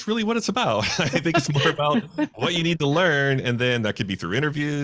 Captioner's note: laughing